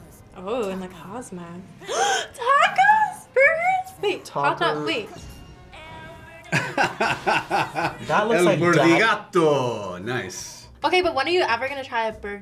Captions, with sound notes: - Ooh, in the cosmos. (gasp) Tacos, burgers! Wait, hot dog, wait. - Taco... - (laughs) El Burdigato, nice! - That looks like... - Okay, but when are you ever gonna try